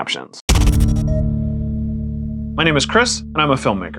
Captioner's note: thud and digital beep